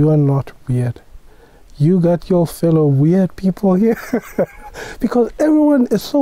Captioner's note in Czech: smích